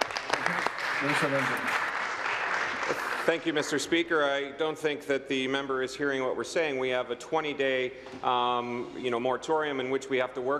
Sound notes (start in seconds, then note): 3.3 applause